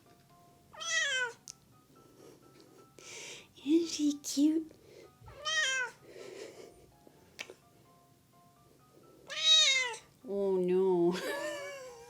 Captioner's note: meow!; meow!!!; laughs